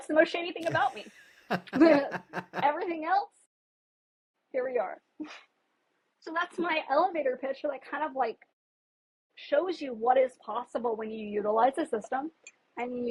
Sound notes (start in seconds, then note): 0.6 laughing